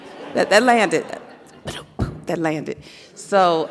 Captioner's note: vocalizes